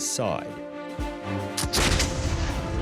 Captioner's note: guns shots